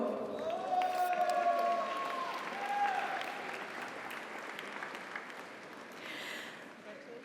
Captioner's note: audience applauds; audience cheers